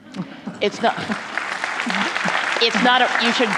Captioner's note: applause